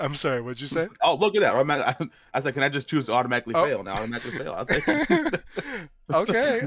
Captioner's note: laughs